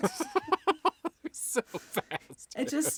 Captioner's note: laughing